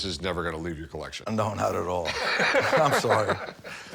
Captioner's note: Rick laughs